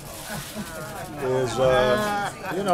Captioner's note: laughter and groans